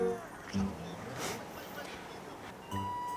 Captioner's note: chuckles